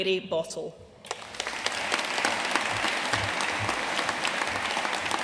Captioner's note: audience applauding